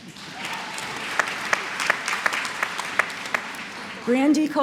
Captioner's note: applause